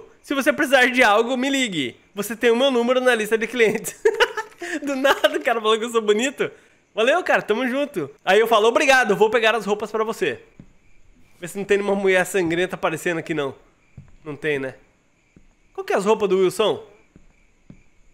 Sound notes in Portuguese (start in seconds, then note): 3.6 risos